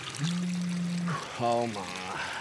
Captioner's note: water running; phone vibrates